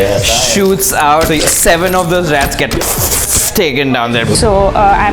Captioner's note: phew-Phew